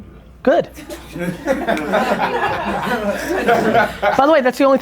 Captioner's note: group laughter